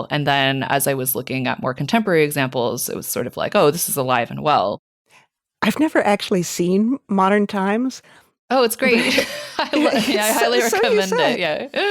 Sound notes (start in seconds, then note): 8.9 both laughing